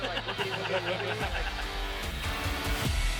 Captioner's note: all laughing; exciting music